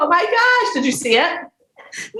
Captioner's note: chuckles